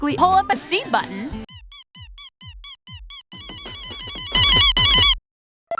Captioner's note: beeping; beeping gets very loud